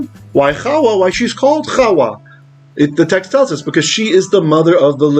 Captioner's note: Hebrew